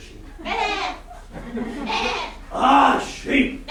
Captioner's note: sheep noises